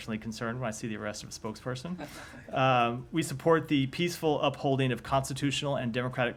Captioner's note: laughter